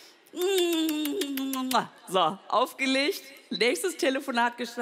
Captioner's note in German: Wiederholende Kusslaute